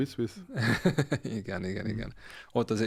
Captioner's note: laughs